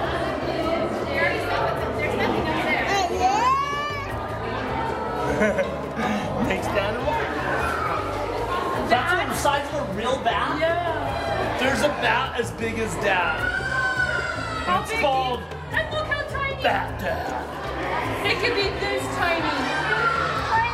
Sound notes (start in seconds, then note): 0.3 loud background chatter; 5.2 laughter